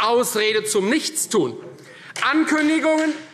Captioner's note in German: Beifall